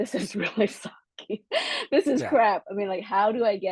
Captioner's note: laugh